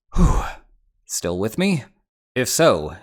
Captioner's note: deep breath